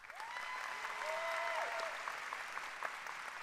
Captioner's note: applause